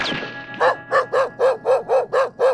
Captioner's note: barking